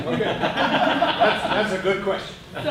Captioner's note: laughter